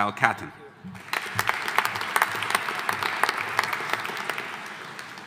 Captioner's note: audience applauding